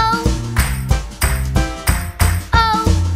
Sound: clap

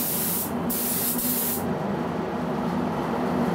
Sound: hiss

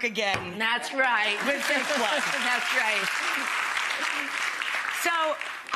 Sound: audience applause

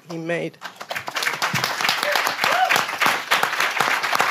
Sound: everybody applauds

